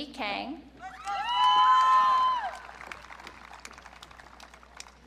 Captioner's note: audience cheering